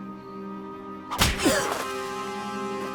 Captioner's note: gasps